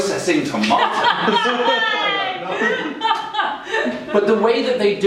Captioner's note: laughing